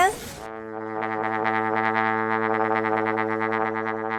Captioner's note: horn resonating